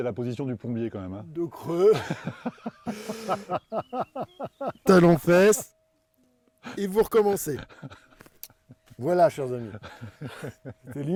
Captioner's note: laughs